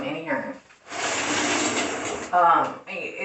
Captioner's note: shower curtain slides